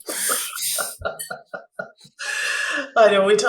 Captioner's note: laughs